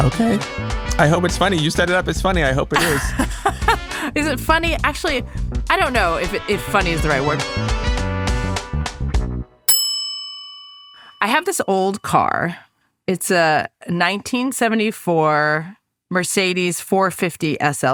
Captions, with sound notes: - Okay. I hope it's funny, you set it up as funny. I hope it is. - (laughs) Is it funny? Actually, I don't know if if funny is the right word. (bell dings) I have this old car. It's a 1974 Mercedes, 450 SLC.